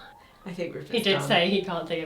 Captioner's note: gasps